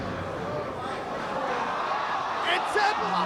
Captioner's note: spectators exclaiming